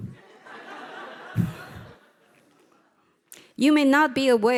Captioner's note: audience laughing